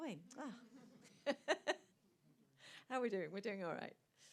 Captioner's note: laughs